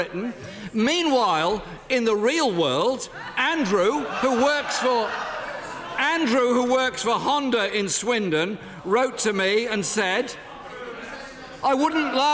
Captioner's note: laughter